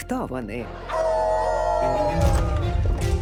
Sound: all howl

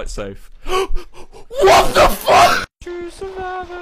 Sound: gasp

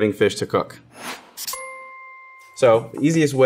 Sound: dinging

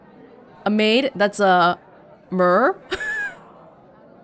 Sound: chuckles

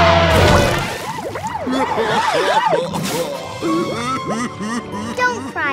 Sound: crying

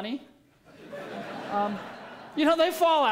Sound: laughter

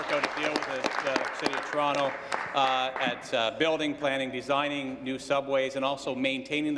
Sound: applause

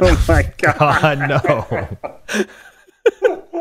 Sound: laughing

